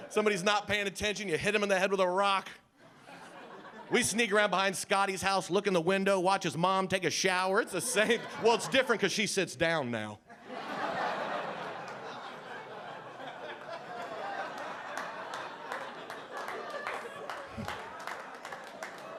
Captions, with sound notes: Somebody's not paying attention, you hit 'em in the head with a rock. We sneak around behind Scotty's house. Look in the window, watch his mom take a shower. It's the same. Well it's different 'cause she sits down now. (audience laughing)